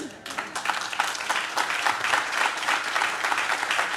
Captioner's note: audience claps